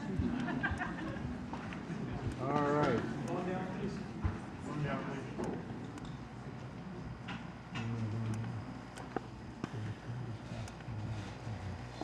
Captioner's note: laughter